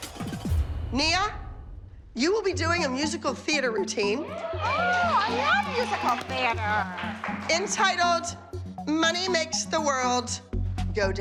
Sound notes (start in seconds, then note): 5.6 girls cheering